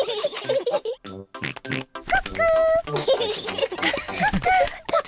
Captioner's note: both laugh; oinks; both laugh